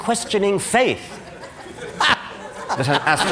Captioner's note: laughter